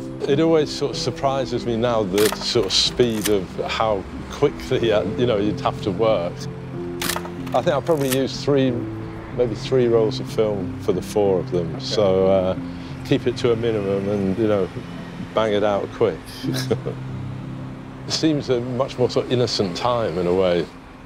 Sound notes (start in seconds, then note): 7.0 camera shutter clicking; 16.4 chuckles